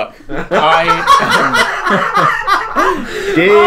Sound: laughing

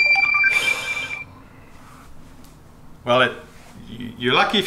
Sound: multiple beeping; sigh

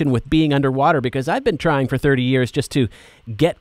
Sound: none

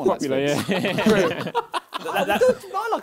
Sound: both laughing

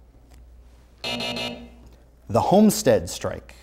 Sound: buzzer sounds

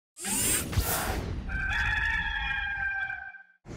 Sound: cock crowing

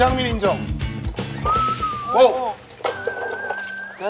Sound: whistle sound

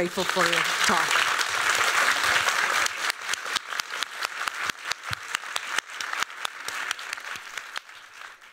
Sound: applause

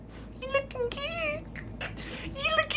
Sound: laughs

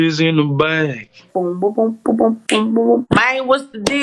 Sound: snapping fingers; humming

